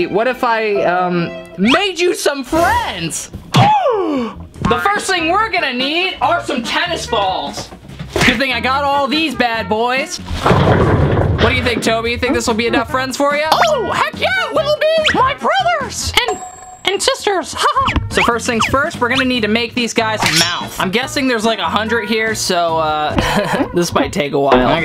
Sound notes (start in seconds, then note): 17.6 laughs; 23.2 laughs